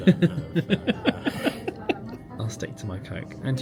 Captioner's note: laughs